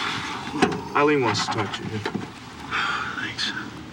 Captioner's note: exhales; sighs